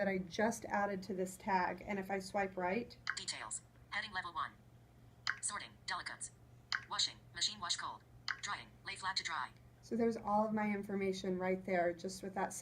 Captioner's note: voiceover